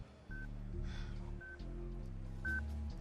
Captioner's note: sighs